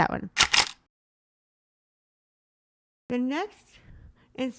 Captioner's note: camera shuttering